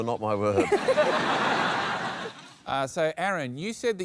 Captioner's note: laughter